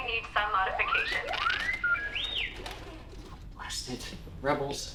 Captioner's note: R7 chirps nervously